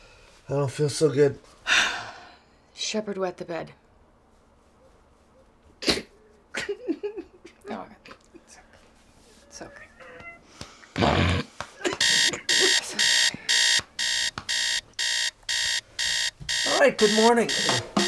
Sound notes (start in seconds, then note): 1.6 heavy sigh; 5.8 cries; 10.4 sniffles loudly; 12.0 alarm beeps